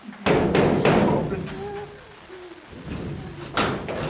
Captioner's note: door banging